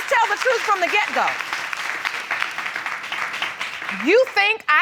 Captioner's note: audience clapping